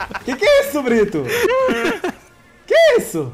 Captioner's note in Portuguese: risos